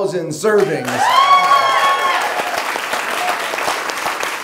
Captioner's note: cheering